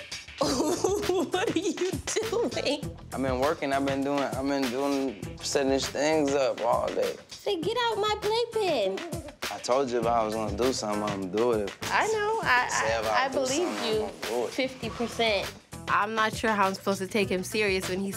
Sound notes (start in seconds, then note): 0.4 laughs